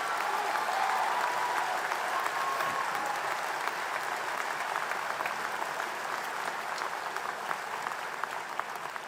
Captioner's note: applause